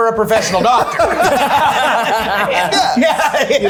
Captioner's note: everyone laughing